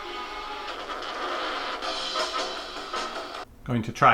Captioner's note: record skipping